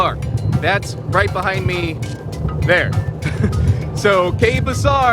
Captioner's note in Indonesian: tertawa